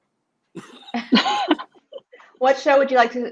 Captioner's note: laughing